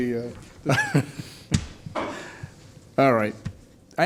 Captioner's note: laughing